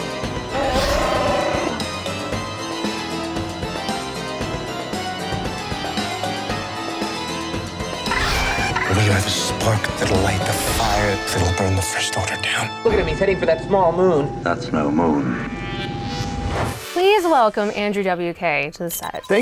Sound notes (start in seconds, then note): 0.5 Chewbacca roar